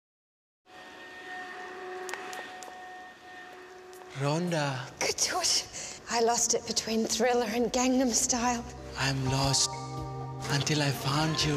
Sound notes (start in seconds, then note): 1.9 footsteps